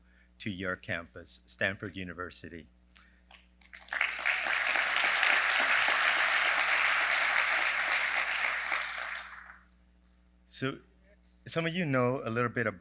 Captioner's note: applause